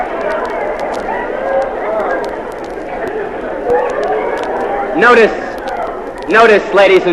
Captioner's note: laugh